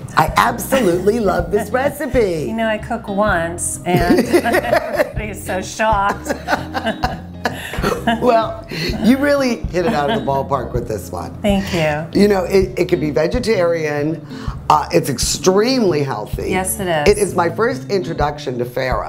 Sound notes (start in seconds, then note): 0.7 giggling; 6.0 laughing